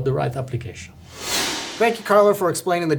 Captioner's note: screen whooshing